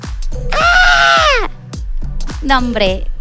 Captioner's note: screams in fierce spider